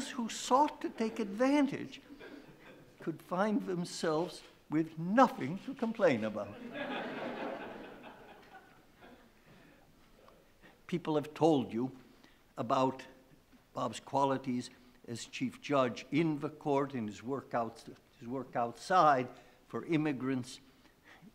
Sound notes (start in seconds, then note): 6.6 laughing